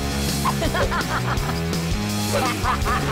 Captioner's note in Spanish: risa